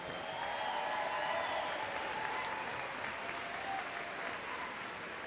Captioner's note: audience applauds and cheers